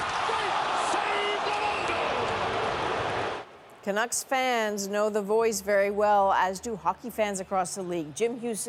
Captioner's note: crowd noise